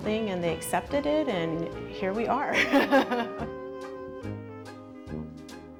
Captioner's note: laughs; gentle music